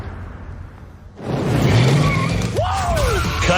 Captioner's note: engine revs